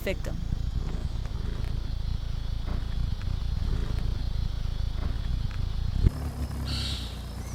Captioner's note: rumbling sound